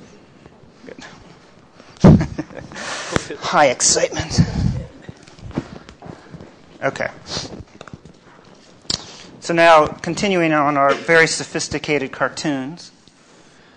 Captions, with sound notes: Good. [LAUGHS] High excitement. OK. So now, continuing on our very sophisticated cartoons,